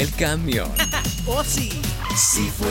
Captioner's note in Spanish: ríe